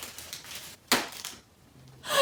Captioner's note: crunching bows; smacking